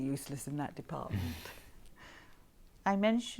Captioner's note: Harry laughs